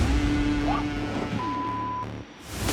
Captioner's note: beep